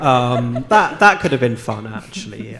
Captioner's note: audience laughing